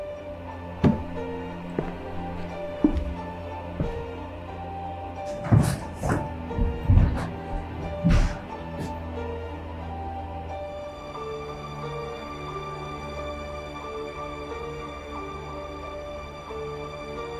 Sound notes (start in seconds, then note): 0.7 footsteps; 8.7 mysterious music continues